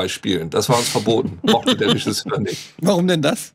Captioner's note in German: Lachen